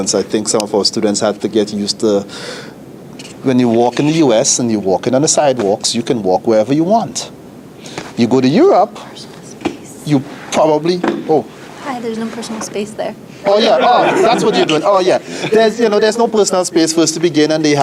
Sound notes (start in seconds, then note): 10.9 chair thumps; 13.4 panel laughs